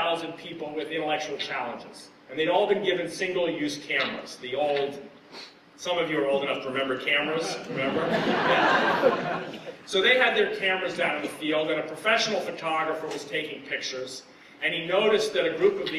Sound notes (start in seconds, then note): 7.6 laughter